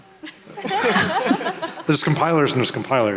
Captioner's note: laughing